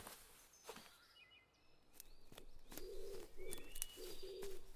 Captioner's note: footsteps thudding